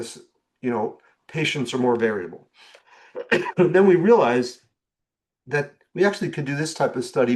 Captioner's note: clears throat